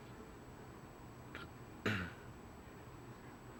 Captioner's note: coughs